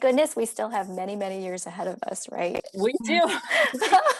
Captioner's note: laughter